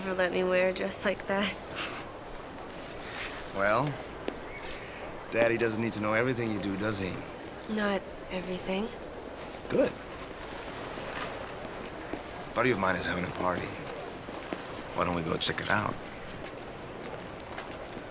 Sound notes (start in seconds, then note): 1.8 laughs